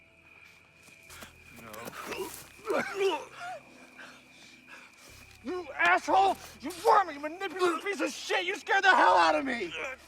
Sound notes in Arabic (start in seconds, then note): 1.9 آهات